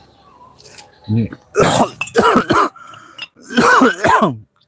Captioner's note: coughing